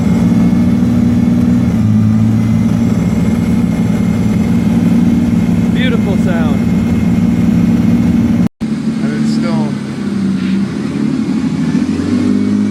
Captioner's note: engine noise